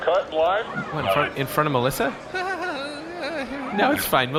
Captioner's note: laughs nervously